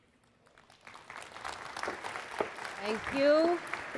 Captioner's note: applause